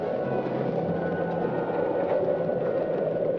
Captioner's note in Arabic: موسيقى درامية; تهب الرياح